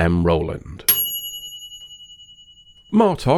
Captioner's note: ding